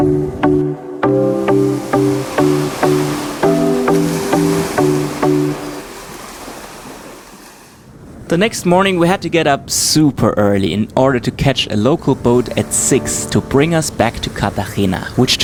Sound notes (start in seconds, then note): 0.0 electronic music; 2.9 ocean waves